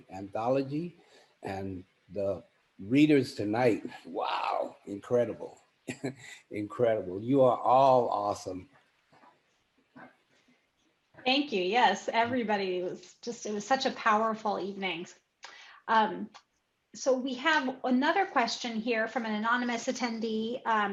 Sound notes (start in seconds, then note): 5.9 chuckles